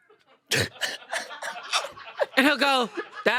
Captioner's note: they laugh